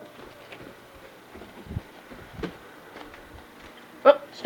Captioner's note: siren